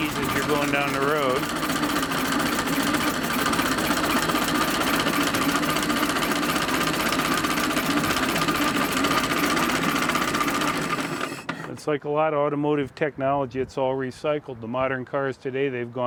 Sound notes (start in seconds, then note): 3.3 car engine rumbling; 3.3 coils buzzing and sputtering